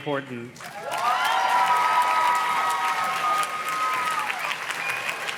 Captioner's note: audience cheers and claps